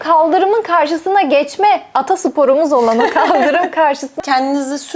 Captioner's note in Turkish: kahkaha